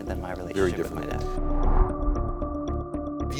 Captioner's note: suspenseful music; graphic whooshing